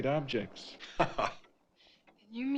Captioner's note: Allan laughing